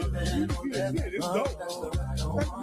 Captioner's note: laughing